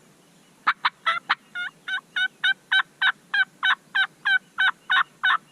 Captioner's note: turkey calls continue